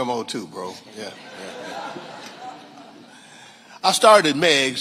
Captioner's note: audience laughing